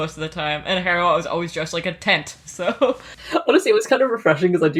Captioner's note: laughs